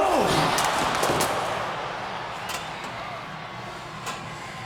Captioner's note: audience cheers